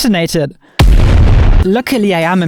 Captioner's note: explosion booming